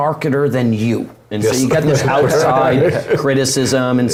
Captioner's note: laugh